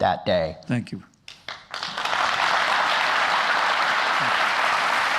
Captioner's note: applause